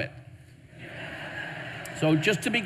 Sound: audience laughing

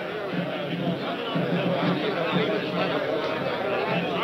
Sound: crowd chattering

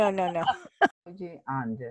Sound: laughter

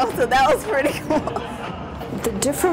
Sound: laughs

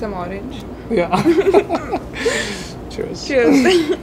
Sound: laugh

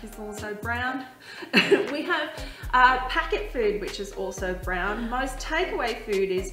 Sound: laughs

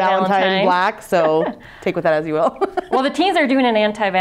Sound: laughs

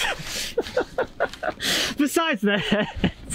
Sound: laughs

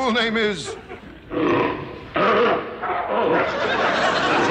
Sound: seal barking

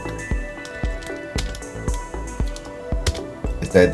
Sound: typing

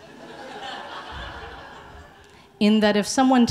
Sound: audience laughing

